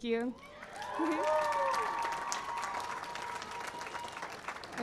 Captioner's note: cheering and applause